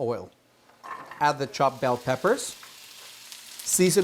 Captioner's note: pan sizzling